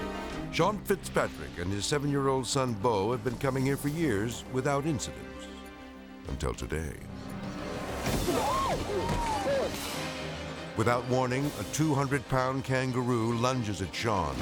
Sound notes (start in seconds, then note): 8.4 person yelps; 9.2 grunts